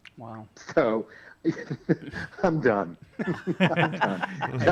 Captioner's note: chuckles; all laugh